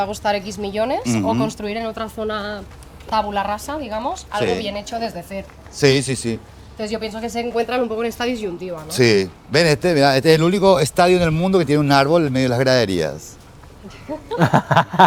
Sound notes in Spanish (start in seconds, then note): 13.9 risas